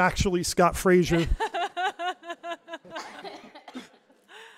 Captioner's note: laughs